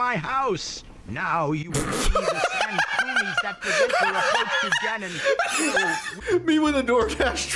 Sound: LINK laughs

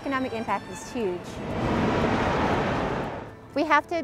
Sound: truck passing

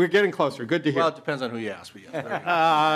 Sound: laughing

